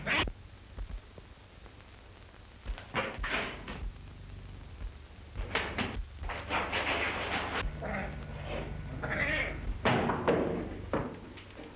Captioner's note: cats screeching